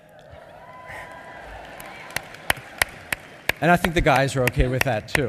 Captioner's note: applause